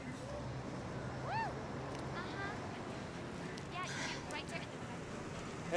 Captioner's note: sex workers call out